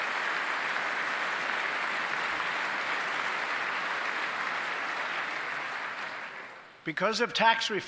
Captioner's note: applause